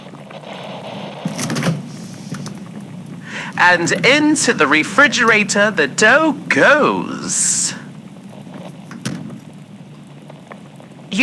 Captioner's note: opens refrigerator door fx; closes door fx